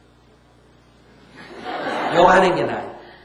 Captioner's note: audience Laughter